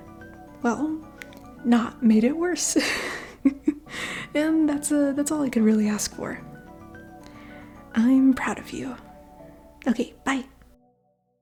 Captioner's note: chuckle